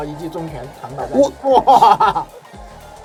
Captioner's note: laughter